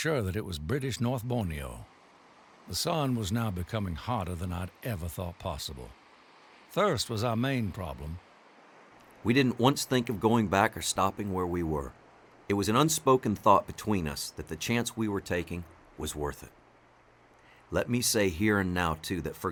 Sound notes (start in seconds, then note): 3.8 water gushing